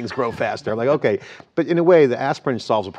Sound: laughter

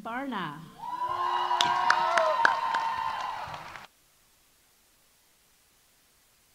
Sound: audience cheering; audience applauding

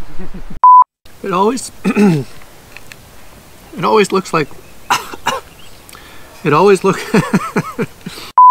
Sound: clears throat

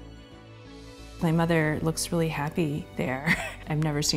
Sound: chuckles

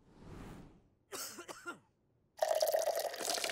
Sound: coughing

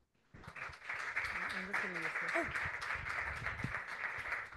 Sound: people clapping

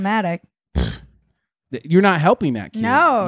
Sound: scoffs

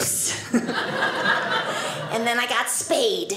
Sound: audience laughing

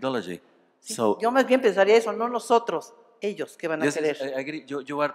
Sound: speaking spanish

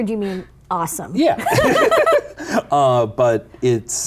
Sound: laughing

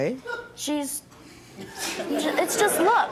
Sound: audience laughing

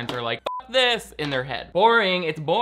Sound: beep

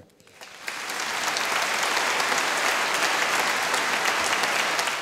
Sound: audience applauding

